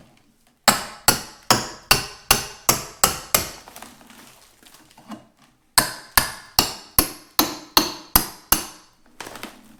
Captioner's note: hammering and prying sounds